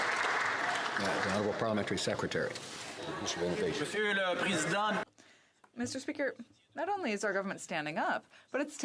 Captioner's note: some Applause